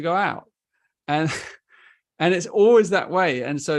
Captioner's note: chuckles